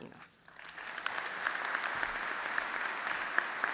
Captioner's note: applause